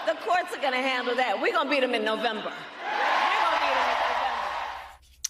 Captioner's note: crowd chanting "lock him up"